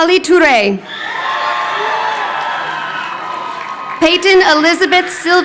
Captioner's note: crowd cheering